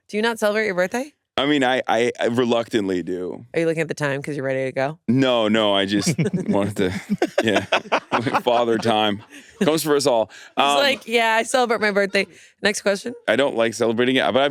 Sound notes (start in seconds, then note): 5.7 laughs; 5.8 all laughing